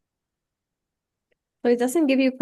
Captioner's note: silence